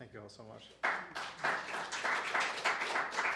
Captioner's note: applause